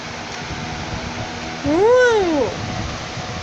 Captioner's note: exclaims